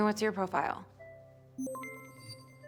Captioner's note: system beeps